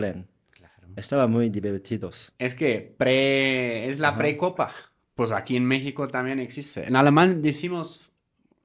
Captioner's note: they speak in German